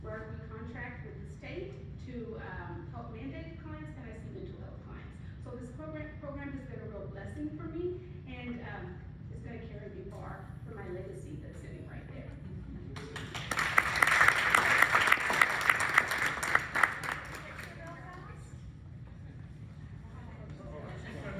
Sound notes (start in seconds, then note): 12.9 applause